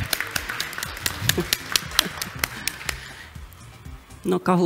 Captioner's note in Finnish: aplodit yleisöstä